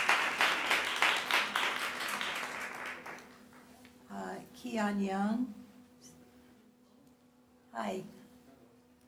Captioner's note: applause